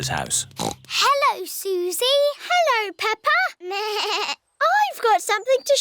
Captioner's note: snorts; bleats